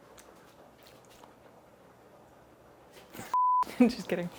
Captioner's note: beep